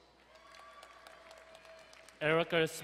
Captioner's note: crowd cheering and applauding